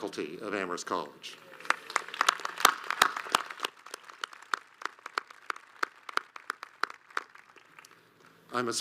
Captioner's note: audience claps